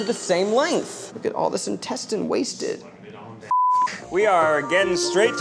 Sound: beep

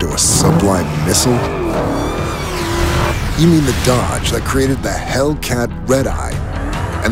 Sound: engine accelerating

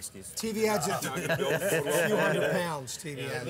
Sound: laughing

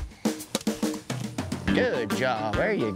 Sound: whack

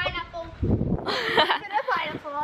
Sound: laughing

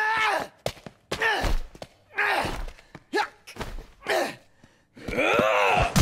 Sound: punching noises

